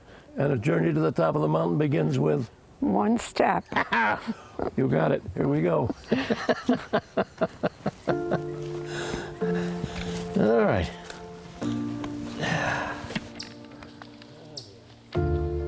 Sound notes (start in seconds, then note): 6.3 laughs; 11.7 gentle music